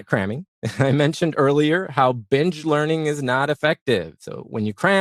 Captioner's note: laugh